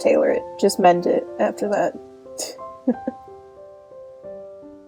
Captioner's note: narrator chuckles